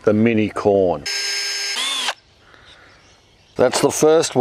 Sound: drilling

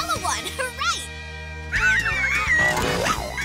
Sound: squeaking

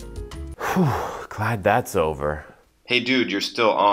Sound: sighs

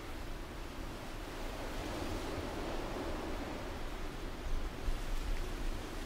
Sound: leaves rustle in the wind

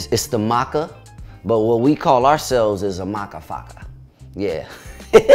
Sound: laughs

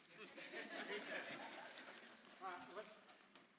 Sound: laughter

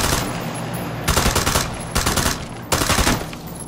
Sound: shooting

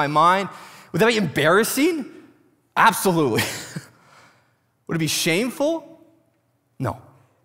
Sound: laughs

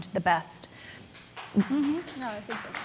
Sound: applause

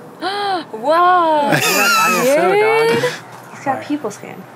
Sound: gasps loudly; laughs

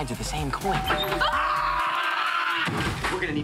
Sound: door bell rings; screaming

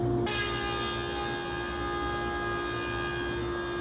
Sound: saw zings

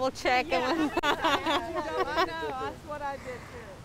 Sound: laughs

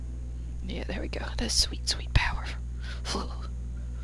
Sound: shudders

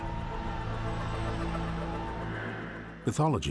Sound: people shouting

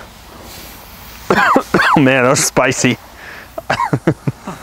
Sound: coughs

